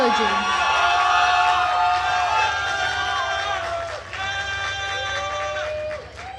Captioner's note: attendees cheering and applauding